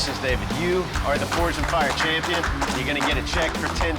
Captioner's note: applause